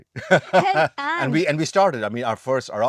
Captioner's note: laughs